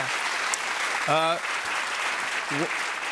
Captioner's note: cheers and applause